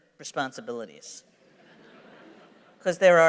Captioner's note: laughter